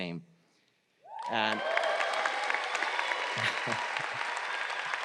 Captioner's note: crowd applauds